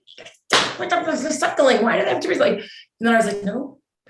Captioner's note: slaps thigh